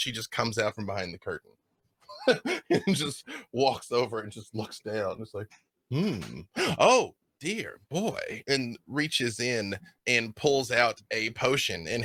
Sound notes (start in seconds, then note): 2.1 laughs